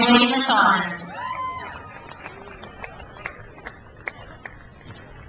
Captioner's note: crowd cheers